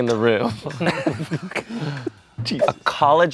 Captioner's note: everyone laughs